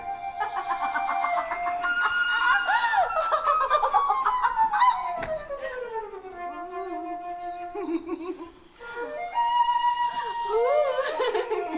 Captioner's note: Margaret laughs